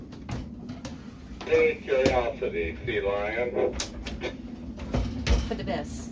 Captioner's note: radio